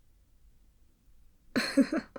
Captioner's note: laugh